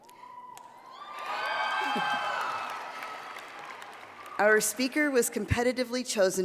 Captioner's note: applause